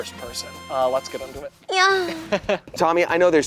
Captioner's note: chuckles